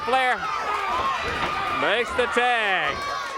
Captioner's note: crowd chatter